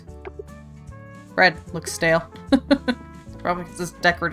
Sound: laughs

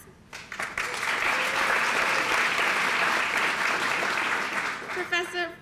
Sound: applause

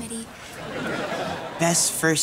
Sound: laughing

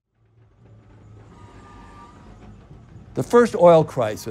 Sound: machines roaring

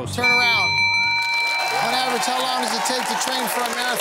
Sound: cheering and applause

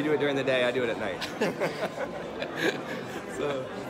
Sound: laughter

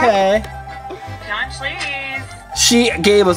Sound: customer speaks gibberish

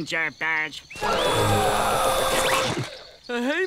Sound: gasping

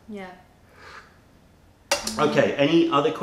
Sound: sips tea

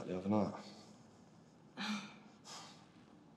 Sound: sighs

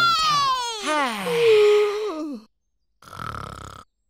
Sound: yawns; sighs; snoring

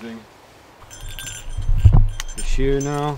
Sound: bell jingling

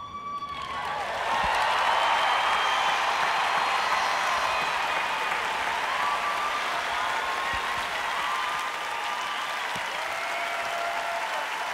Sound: cheers

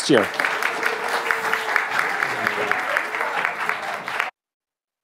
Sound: audience applauding

